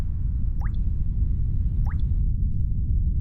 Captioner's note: wind blows